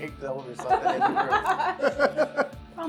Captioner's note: laughing